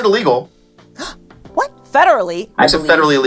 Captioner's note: gasp